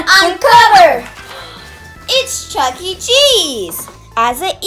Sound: gasps

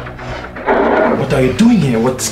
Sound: roar

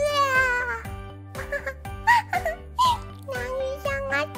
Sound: pained laugh

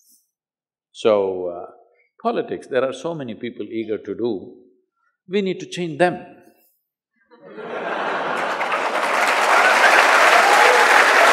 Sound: laughter/Cheers/Applause

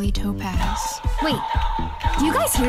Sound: laser sounds

